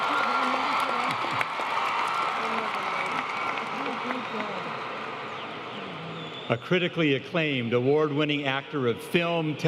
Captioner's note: applause